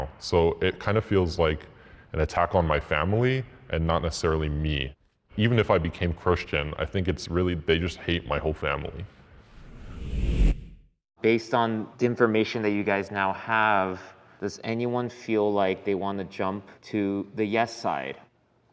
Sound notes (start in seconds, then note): 9.4 transition whooshes